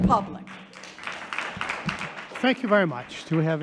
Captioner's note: audience applauding